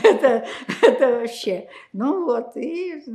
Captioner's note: laughing